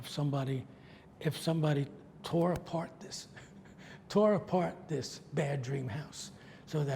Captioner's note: laughs